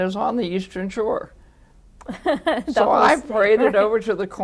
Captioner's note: laughter